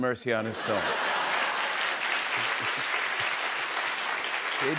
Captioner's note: cheers and applause